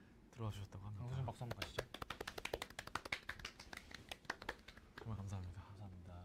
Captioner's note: clap clap clap